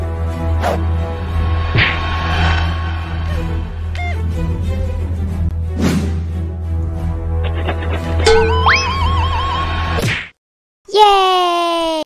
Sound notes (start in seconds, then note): 3.1 robot Noises; 8.2 robot OWWWW